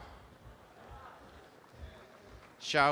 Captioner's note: audience applause